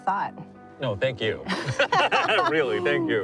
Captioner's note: laughing